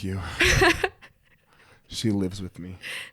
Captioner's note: laughs